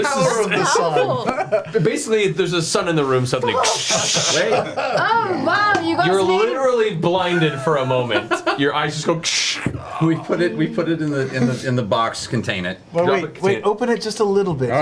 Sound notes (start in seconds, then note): 3.9 crackle; 7.2 laughs; 10.3 crackle